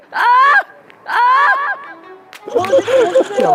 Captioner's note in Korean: Сопрано шиг хашгирах